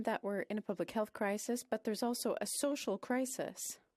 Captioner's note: speaking French